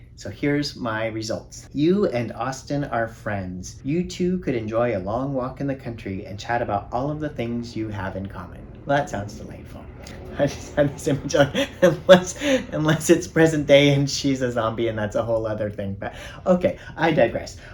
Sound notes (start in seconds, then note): 10.1 laughing